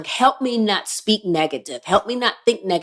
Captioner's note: none